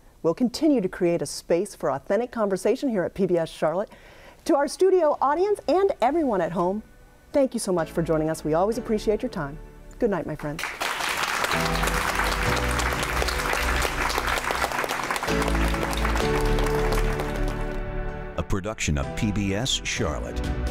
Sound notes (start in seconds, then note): 10.5 audience applauds; 11.1 slow dramatic music